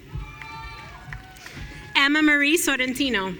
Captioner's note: audience cheering